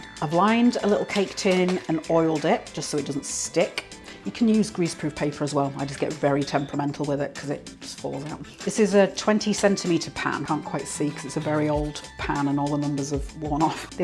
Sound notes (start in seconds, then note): none